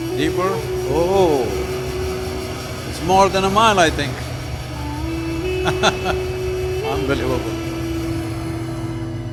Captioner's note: laughs